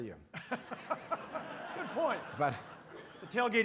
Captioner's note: audience laughing; laughs